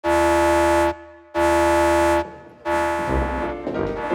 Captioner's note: alarm blares